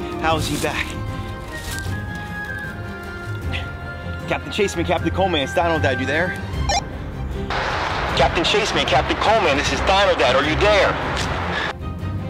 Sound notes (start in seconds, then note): 6.8 walkie talkie beeps; 7.5 radio white noise; 12.0 intense music